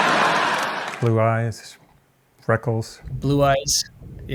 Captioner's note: laughter